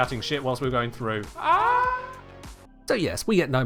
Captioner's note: scream fades into echo